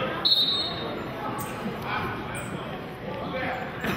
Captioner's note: whistling